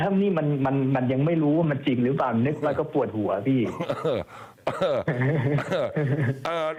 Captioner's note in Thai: เสียงไอ